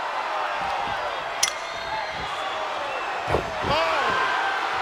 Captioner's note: bat clanging; audience cheering